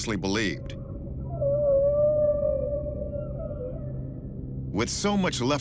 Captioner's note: whales singing